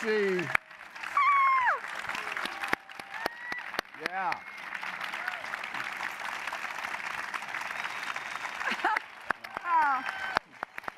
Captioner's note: applause continues